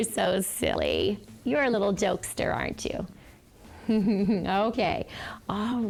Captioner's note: chuckles